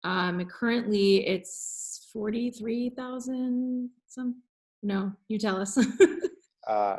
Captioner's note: chuckling